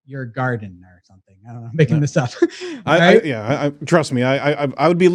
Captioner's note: laughs